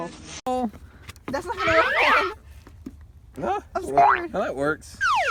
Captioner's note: slide whistles and various disturbing noises